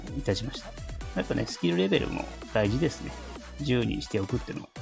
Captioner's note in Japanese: 笑haha